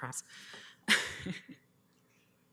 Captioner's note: chuckles